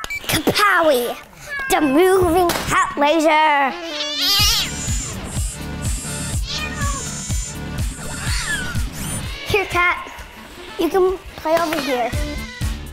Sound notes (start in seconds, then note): 4.3 cat meows; 4.4 electronic dance music